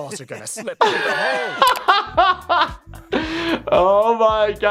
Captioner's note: laughter